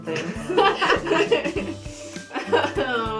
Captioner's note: laughter